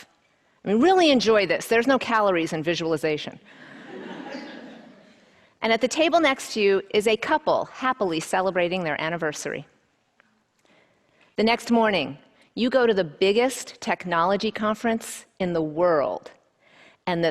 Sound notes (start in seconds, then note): 3.6 audience laughs